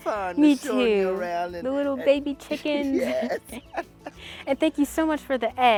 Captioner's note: laughs